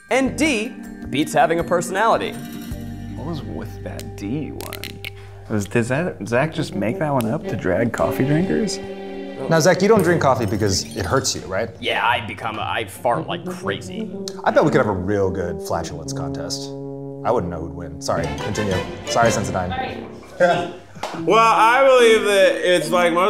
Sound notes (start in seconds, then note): 20.3 chuckles